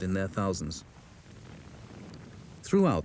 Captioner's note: shell booms